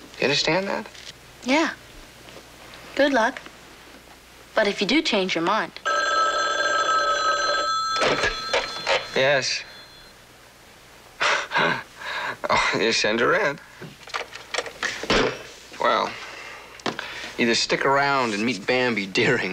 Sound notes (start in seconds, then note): 5.8 phone ringing; 9.7 chuckles